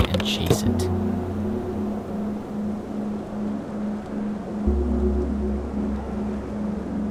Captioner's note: ambient music; wind whistling